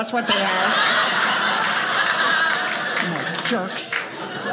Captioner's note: audience laughing